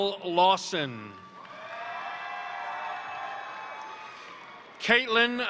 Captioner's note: crowd cheering; crowd applauding